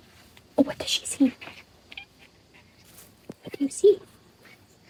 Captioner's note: kitty chittering